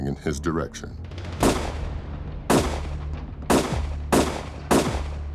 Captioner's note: gunfire